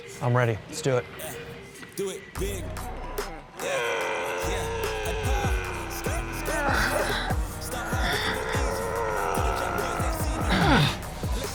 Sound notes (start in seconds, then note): 1.6 hip hop music; 2.4 team members grunting; 6.6 hip hop music